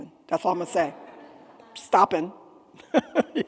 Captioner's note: attendees laughing